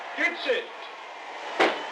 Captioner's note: gunshot